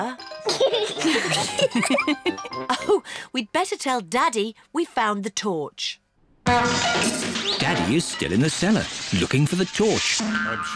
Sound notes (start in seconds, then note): 0.7 all laugh; 6.4 crashing